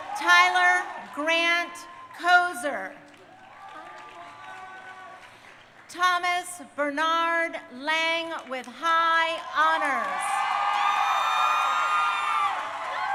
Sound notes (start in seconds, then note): 3.1 crowd cheering; 9.3 crowd cheering